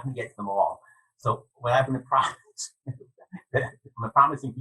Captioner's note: laughing